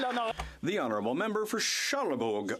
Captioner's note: some Applause